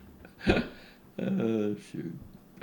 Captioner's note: laughs